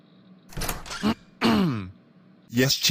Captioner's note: door opens, throat clears